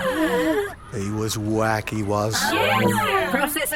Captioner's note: Urchin droids gasp